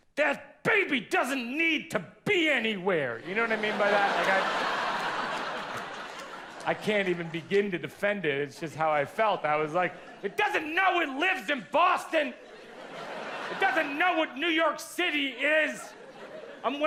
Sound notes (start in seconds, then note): 3.2 audience laughs; 12.6 audience laughs